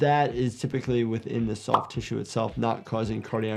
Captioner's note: graphics popping